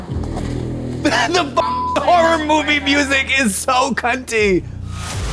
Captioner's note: beep